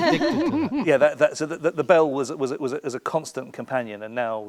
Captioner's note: laughing